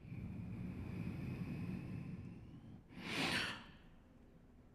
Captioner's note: breathes